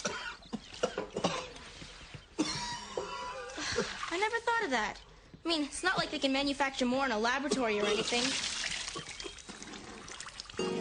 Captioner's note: coughs